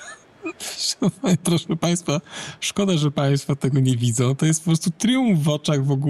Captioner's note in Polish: śmiech:D